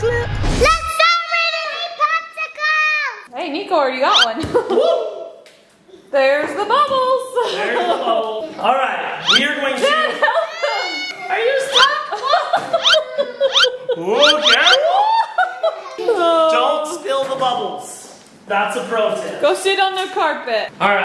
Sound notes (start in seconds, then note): 4.2 slipping noise; 10.2 crying; 13.0 slipping noises